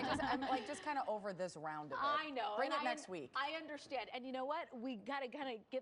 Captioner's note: laughter